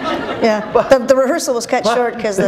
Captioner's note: laughter